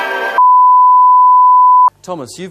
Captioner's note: bars and tone